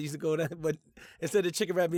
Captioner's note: laughs